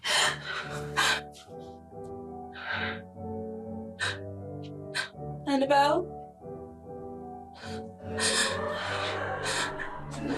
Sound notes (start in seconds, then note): 0.6 distant music; 8.5 distant laughter